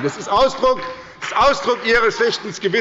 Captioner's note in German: Beifall bei der SPD